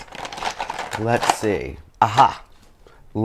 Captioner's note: pencils clatter